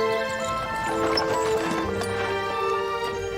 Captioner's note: carriage rattling